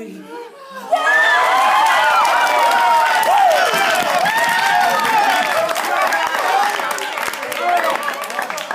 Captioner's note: applause